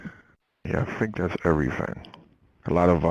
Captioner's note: voiceover